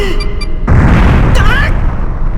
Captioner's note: panicked cry